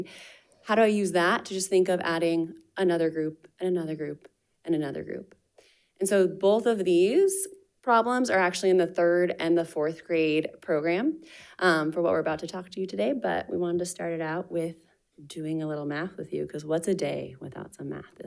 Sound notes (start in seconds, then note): none